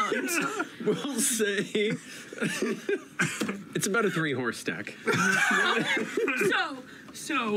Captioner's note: laughter